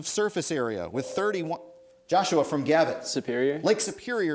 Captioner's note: ding